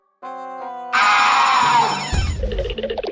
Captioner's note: bell rings